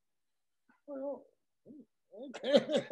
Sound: laugh

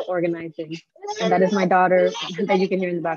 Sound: baby babbling

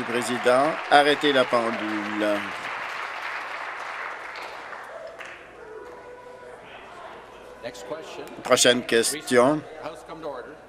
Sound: applause

